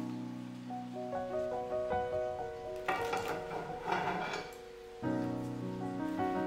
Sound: lid closed

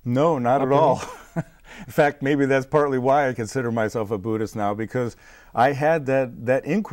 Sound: laughing

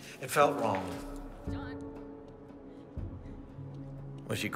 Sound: woman distantly speaking

